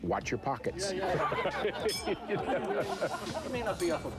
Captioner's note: chuckles